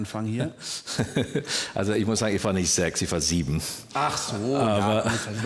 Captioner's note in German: lacht